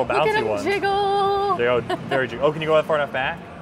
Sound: laughs

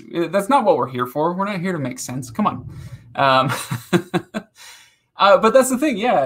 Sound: laughing

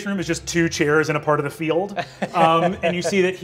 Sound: laughing

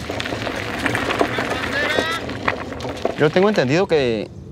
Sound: tires kicking up gravel; background traffic

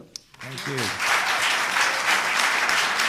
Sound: applause

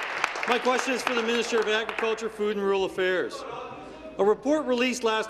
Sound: applause

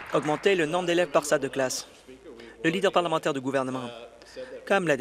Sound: applause

